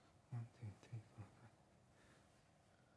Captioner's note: murmurs counting